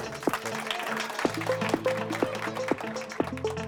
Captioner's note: boys clapping